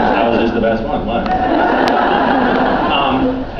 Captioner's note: laughs